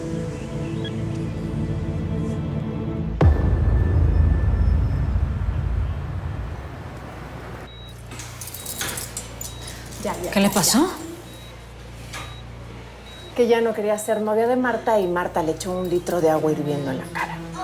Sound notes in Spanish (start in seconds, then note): 9.0 Sonidos de telemetría